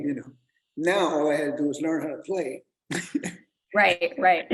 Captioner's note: laughs